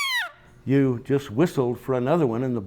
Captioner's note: whistle blows